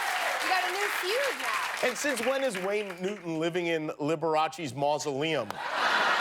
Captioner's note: cheers and applause